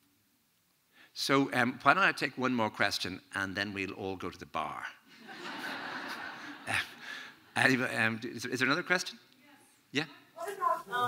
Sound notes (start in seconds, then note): 5.2 audience laughing